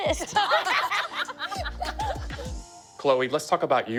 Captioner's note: all laughing